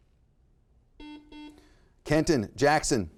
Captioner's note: buzzer beeping